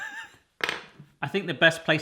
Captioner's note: laughing; clattering